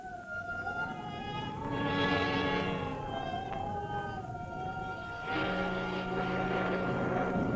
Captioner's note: wind howling; mysterious music